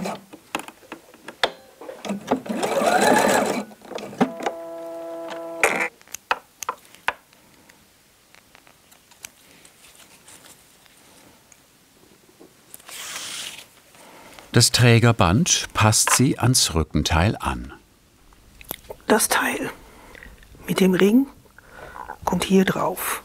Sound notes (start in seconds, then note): 4.3 buzzing, short creaking